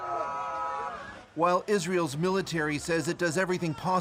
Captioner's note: speaking alternate language